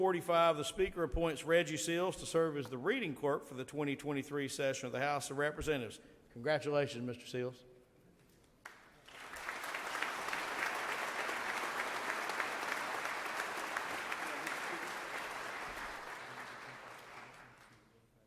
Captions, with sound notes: Pursuant to Rule 45, the speaker appoints Reggie Seals to serve as the reading clerk for the 2023 session of the House of Representatives. Congratulations, Mr. Seals. [audience applauds]